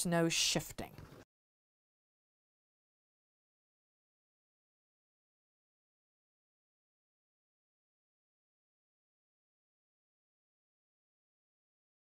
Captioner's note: no Sound Present